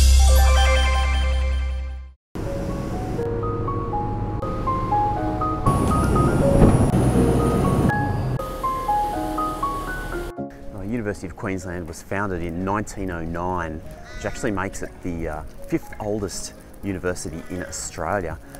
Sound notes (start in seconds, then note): 2.4 boat engine whirring; 2.4 gentle piano music